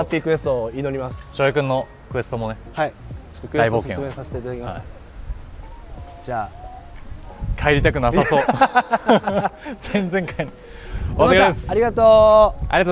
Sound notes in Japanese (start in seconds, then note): 8.1 笑い